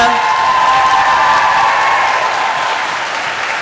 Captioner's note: applause